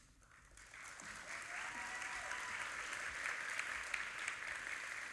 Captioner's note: audience applauding